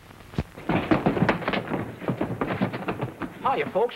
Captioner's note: footsteps